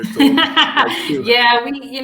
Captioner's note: laughter